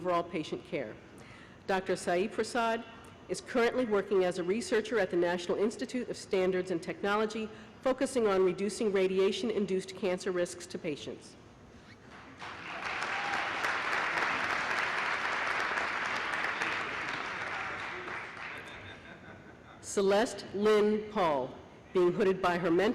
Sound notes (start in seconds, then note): 12.2 applause